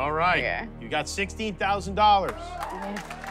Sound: cheers and applause

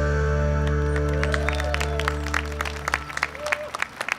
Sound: audience clapping

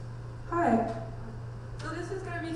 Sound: voiceover

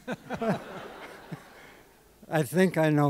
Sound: laughter

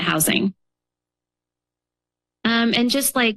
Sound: pause

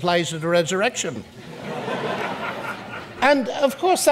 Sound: audience laughs

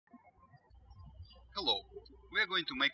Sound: birds chirping

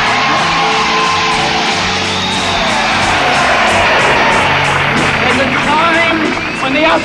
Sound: audience cheering

